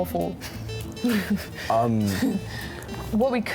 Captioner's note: laughter